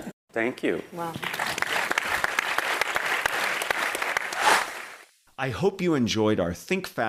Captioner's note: applause